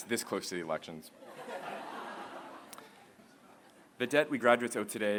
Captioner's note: laughter